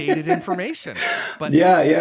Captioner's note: laughter